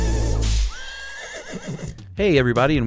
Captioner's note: whip cracks; horse whinnies